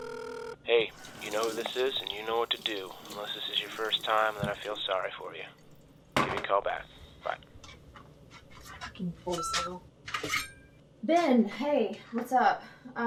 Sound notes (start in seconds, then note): 0.9 Ben Over Answering Machine